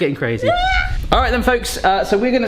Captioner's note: screams